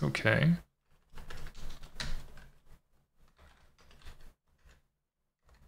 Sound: typing

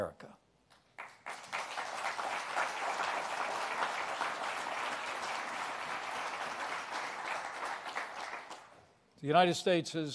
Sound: applause

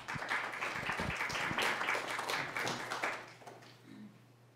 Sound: applause

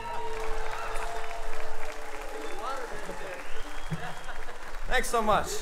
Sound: audience cheering and applauding

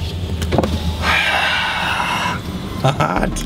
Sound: breathes out

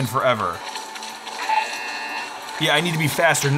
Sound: buzzer ringing

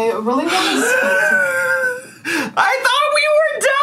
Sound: wheezing

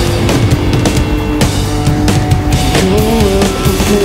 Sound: clapping in time

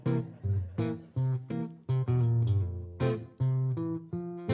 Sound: audience laughs

